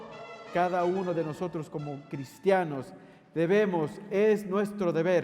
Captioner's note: speaking in foreign language